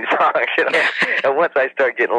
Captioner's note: laughs